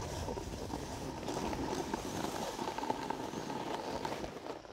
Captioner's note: snow crunching